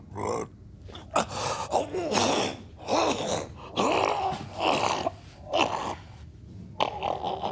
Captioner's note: max coughs